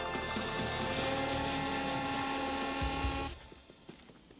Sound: vacuum Sucking

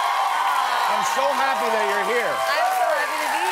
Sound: cheers and applause

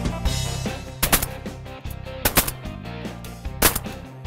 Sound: gun firing

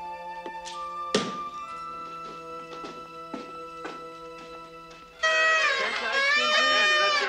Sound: party horns blaring; people chattering

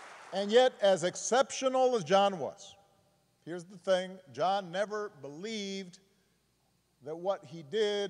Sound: applause

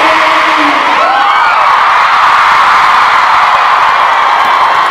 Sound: audience cheers

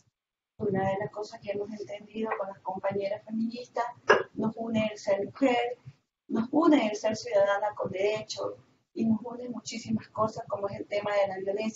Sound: Spanish

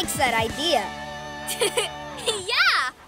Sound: laughs

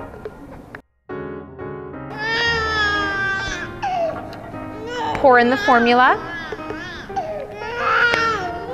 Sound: crying baby

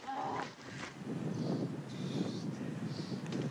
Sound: groaning; wind blowing as birds chirps

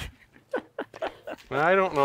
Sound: laughs

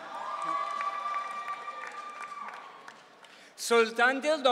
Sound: audience cheering

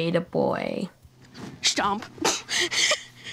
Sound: laughing

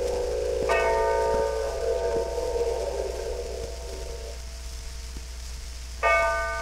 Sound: bell tolls

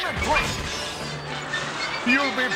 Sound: background destructive wind gusting

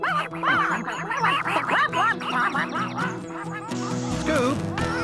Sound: ducks Quacking

